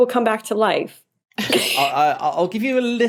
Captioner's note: both wheeze